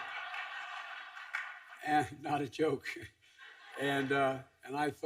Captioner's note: laughter